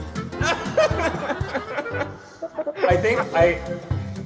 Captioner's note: chuckles